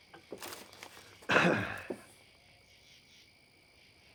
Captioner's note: Deputy sighs